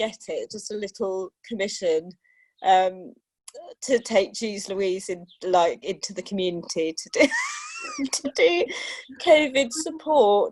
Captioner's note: laughter